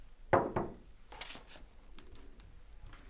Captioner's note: paper rustling